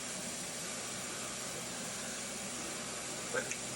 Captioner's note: mixer whirring